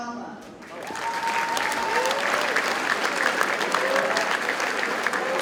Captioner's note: audience cheers and applauds